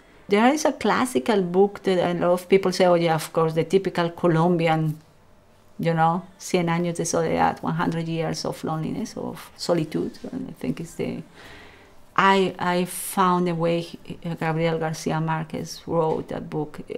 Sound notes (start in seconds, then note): 6.4 speaks foreign language